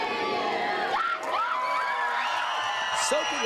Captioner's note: all cheering